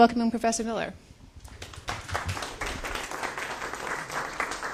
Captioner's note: applause